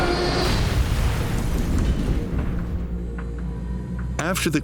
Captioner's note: plane roaring; aircraft exploding